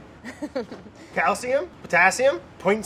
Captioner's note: laughs